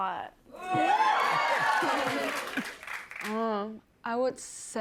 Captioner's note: cheers and applause